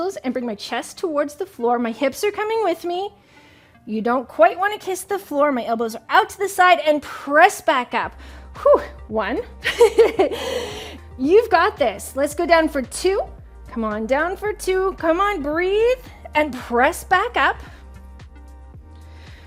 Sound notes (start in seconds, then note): 9.6 laughs